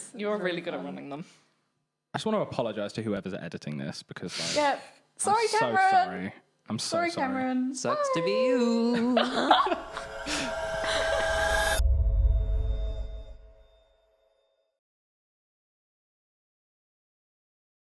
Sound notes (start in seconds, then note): 9.0 laughing; 11.9 dramatic music